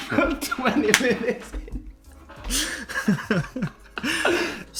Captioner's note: both laugh